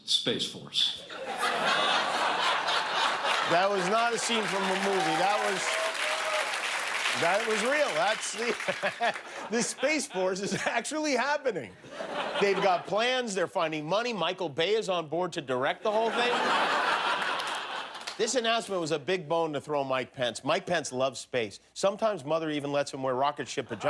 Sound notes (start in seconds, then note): 1.0 laughter; 7.5 applause; 17.6 laughter